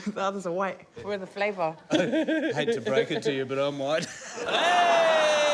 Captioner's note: chuckles